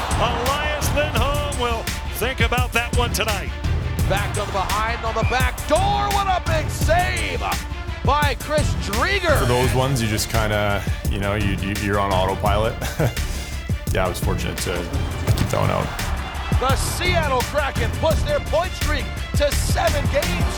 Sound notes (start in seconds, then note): 12.6 laughs